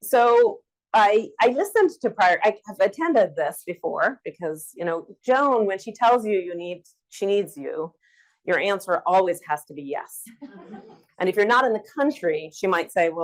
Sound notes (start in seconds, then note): 10.4 audience laughs